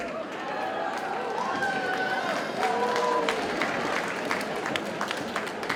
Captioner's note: audience cheers and applauds